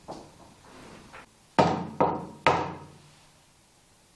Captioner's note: knocking